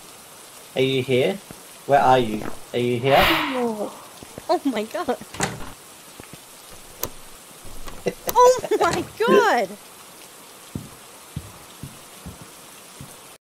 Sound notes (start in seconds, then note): 3.3 ghost sighs; 5.3 door closes; 5.3 door locks